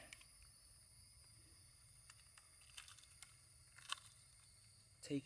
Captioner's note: clicking